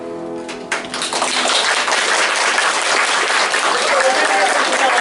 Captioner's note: applause